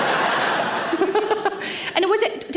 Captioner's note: audience laugh; Sarah laughs